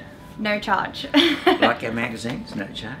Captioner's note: laughs